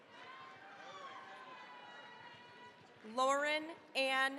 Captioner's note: cheering, applause